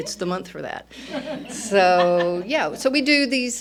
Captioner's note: laughter